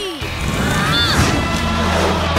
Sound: grunting

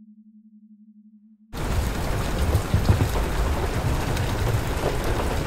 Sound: rain pattering

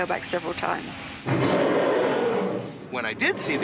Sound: growls

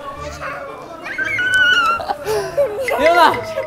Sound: kyaaaah

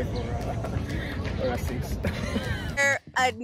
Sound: laughs

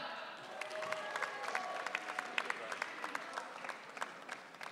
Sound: audience cheering

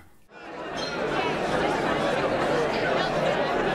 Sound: crowd talking

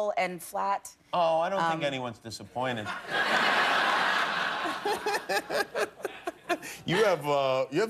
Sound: laughter

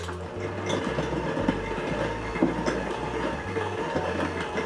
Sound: hand mixer whirs

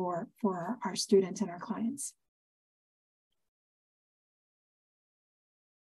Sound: A pause

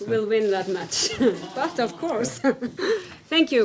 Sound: laughter

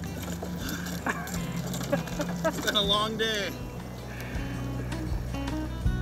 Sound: laughing

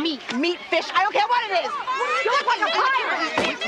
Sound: women yelling

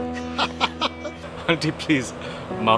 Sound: both giggles

